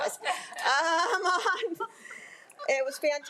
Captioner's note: crowd laughing